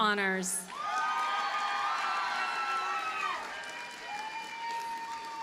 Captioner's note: audience cheers and applauds